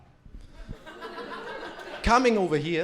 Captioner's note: crowd laughing